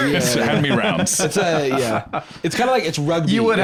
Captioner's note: laughs